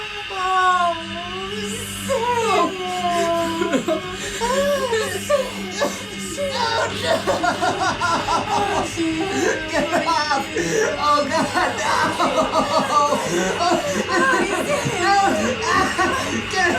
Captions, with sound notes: (Gina moaning) (Billy whimpering) Oh, Sam. Sam. - Oh, no! Get off. Oh God, no! (Gina moaning) (Billy crying)